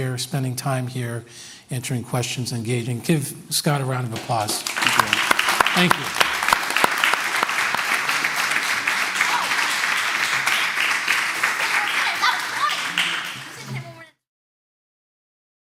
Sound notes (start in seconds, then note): 6.8 applause